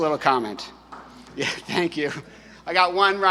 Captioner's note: light applause